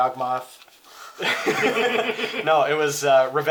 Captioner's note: laughs